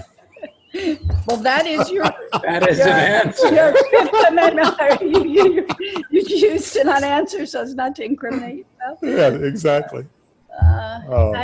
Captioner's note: laughing